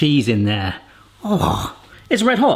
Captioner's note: grunting